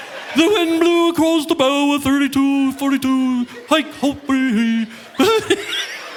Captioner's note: laughs; speaks gibberish; audience laughing; laughs